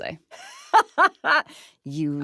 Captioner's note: laughing